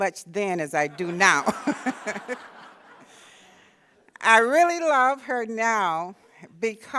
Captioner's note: laughter